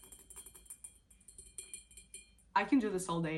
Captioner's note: nails tapping